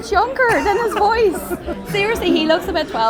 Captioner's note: laughing